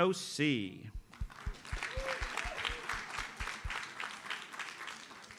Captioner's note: audience applauds